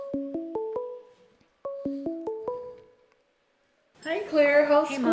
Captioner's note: ringing